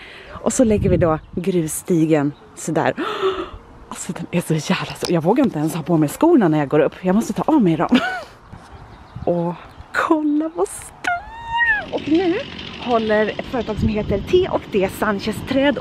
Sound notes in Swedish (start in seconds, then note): 7.9 skratt